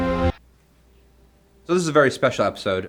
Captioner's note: abrupt silence